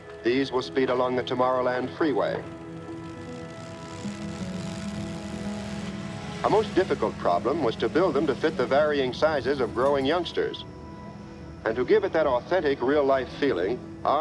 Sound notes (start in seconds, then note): 2.8 engine revving